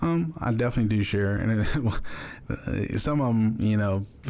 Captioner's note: chuckles